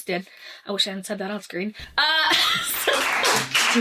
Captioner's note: laughs